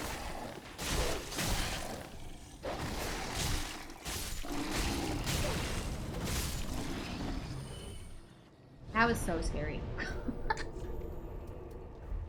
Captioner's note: laughter